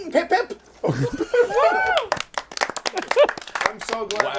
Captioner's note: cheering